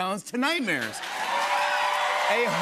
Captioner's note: cheers and applause